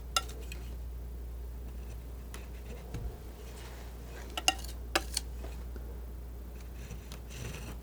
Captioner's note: scratching